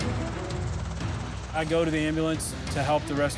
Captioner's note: helicopter rotors thump